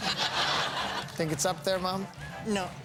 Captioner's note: laughing